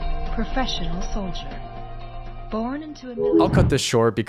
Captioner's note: distorted audio